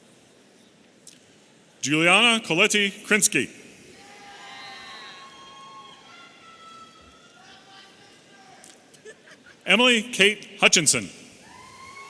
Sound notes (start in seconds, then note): 8.9 audience member chuckling